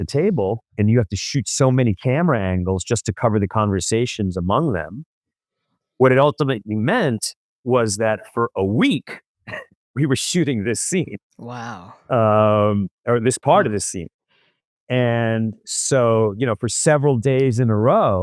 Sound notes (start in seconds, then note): 8.7 laughs